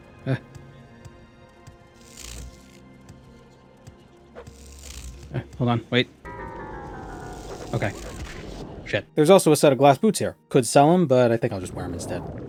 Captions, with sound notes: Ahh! Eh, hold on, wait. *Ringing the bells* Okay. Shit. There's also a set of Glass Boots here. Could sell them, but I think I'll just wear them instead.